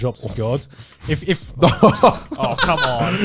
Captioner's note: guys laughing